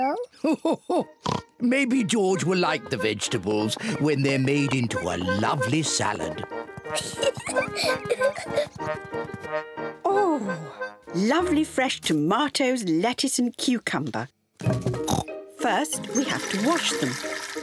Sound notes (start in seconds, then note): 2.0 laughs; 6.9 peppa pig laughs; 15.0 oinks